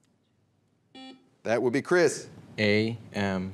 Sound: buzzer beeps

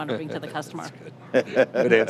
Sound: laughing

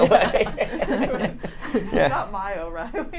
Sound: all laugh

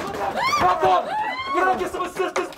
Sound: A woman's scream

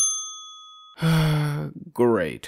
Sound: sigh

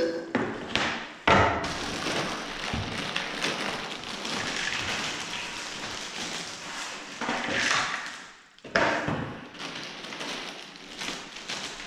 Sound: noise from dumping out the pieces

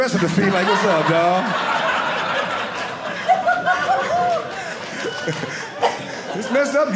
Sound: audience laughing

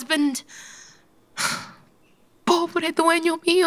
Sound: sigh

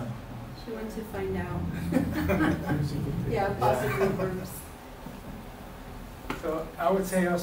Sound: chuckle

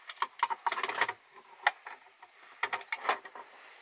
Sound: clunking

